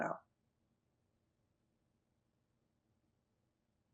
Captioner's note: pauses 8 seconds